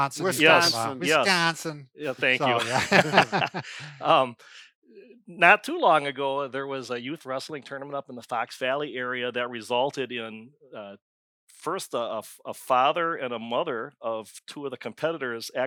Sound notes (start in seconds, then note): 2.0 laughs